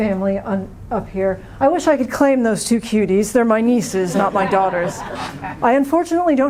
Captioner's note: laughter